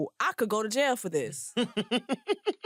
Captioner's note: laughs